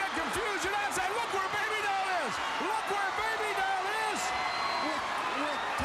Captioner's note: crowd cheering